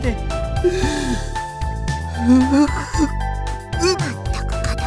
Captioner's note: sob